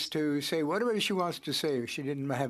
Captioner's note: speaking French